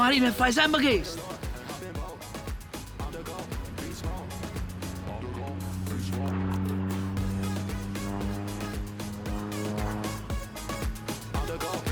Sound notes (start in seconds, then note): 2.2 upbeat pop music continues; 5.8 aircraft passing; 9.6 upbeat pop music continues